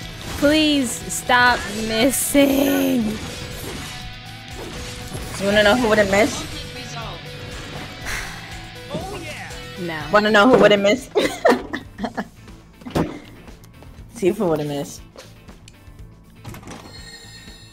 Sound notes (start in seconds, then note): 8.0 sighs; 11.1 laughs